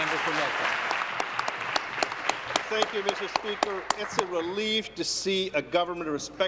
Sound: applause

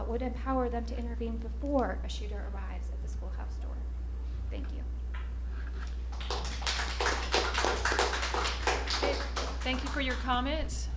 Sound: applause

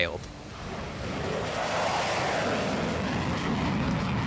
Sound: jet roaring

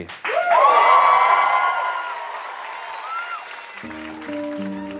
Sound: applause

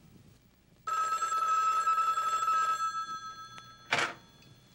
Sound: phone rings

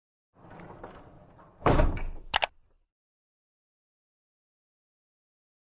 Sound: rolling, slamming and clicking

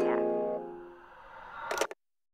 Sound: phone hangs up

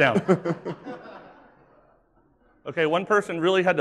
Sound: laughing

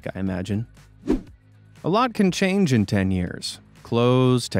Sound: swoosh

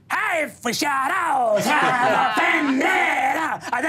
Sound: laughs

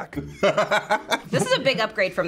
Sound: laughs

